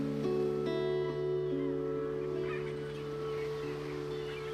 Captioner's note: sea gulls squawking